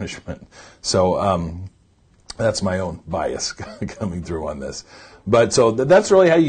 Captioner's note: laughs